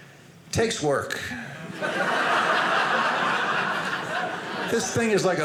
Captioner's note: audience laughing